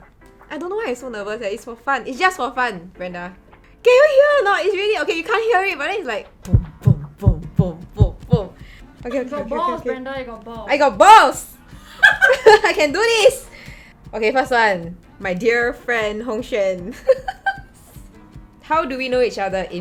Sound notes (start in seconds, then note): 6.4 heartbeat sounds